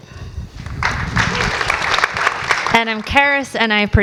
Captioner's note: audience applauds